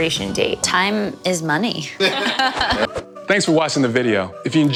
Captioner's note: all laugh